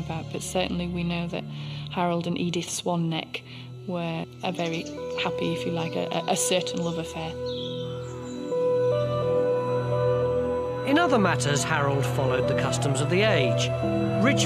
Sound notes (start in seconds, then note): 7.5 birds chirping; 7.5 gentle music